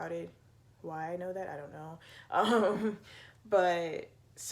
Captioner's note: laughs